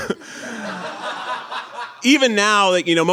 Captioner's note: audience laughing